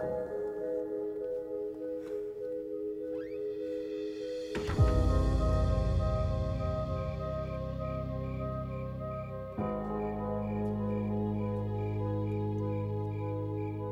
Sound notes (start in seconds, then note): 3.1 door squeaks; 4.0 dramatic music; 4.0 thudding; 6.9 crickets chirping